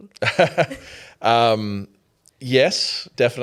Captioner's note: laughing